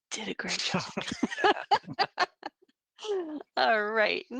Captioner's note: all laughing